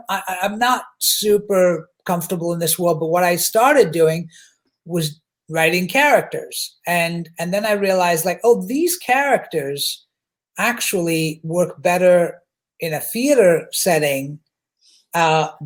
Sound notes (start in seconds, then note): none